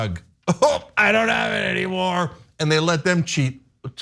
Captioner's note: laugh